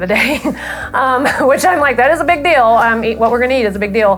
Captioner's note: laughs